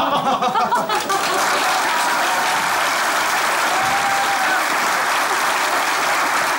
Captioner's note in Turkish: Alkış sesleri